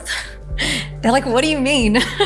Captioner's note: Maria laughing